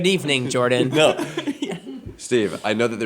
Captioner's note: laughing